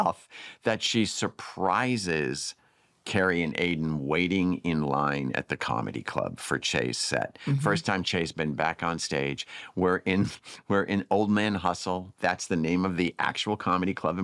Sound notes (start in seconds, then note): 9.8 chuckles